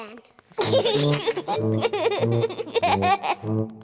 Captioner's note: giggling